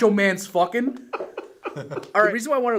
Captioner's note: chuckles